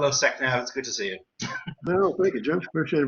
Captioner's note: laughs